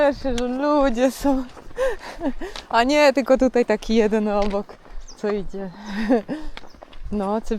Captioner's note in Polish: śmiech